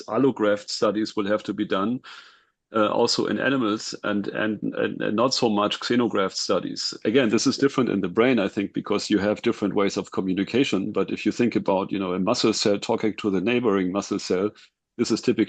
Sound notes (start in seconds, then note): none